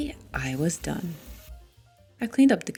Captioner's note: running water sounds